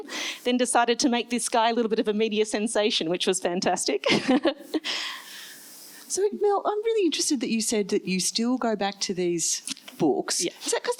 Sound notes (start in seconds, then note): 4.3 laughs